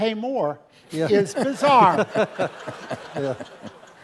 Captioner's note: laugh